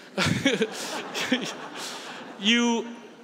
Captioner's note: laughs